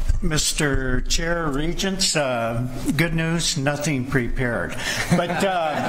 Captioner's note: laughter